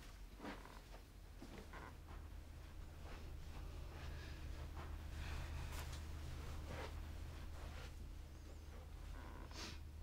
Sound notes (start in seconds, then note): 1.5 floor creaks